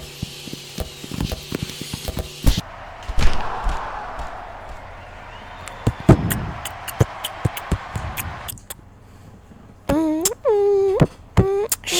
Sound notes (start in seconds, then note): 6.0 even cooler beatbox; 11.4 lame ahh beatbox